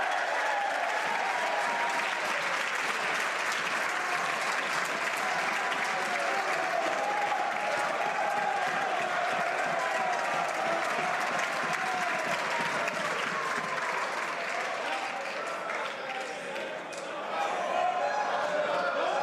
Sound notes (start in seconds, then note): 3.2 some Applause